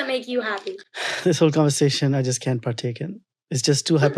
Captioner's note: sighs